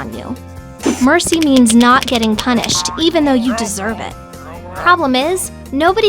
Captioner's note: grumble